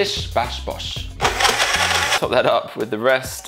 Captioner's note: blender motor runs